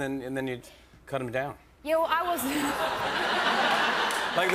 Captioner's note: laughter